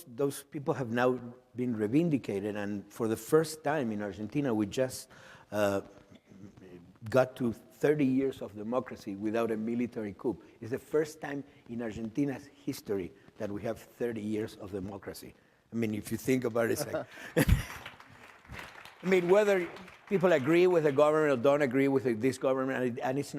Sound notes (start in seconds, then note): 16.9 chuckle; 17.2 applause